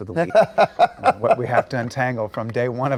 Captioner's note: Nathan Lee laughs